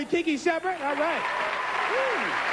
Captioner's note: cheering